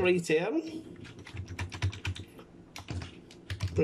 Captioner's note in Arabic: صوت لوحة المفاتيح